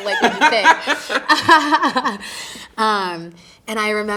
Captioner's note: both laughing